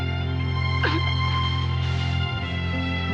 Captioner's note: crying